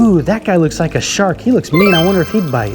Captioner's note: chimes ringing